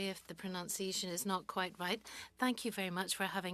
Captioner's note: speaking french